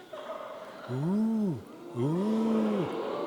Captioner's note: audience members laughing